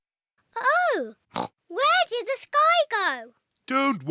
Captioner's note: oinks